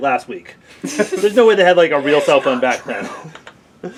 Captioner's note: laugh; whispering